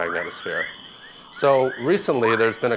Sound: whale-like sounds

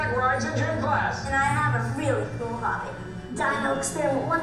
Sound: voiceover

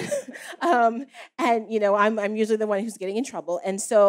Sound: laughs

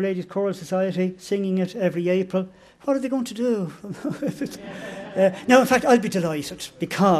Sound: laughter

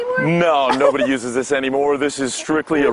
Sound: laughter

